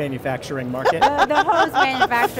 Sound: laughing

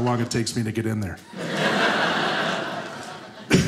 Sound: audience laughing

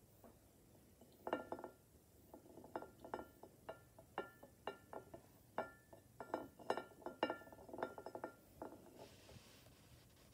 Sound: bowl rolling on table and clinking against plate

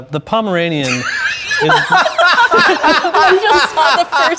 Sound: laughing

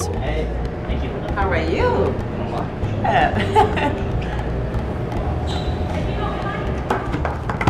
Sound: background Conversation

